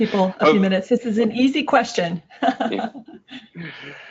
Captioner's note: giggles